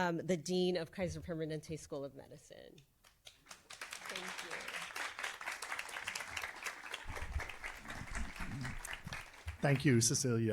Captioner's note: applause